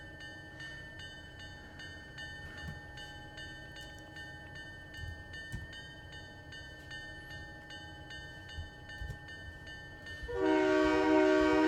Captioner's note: train whistle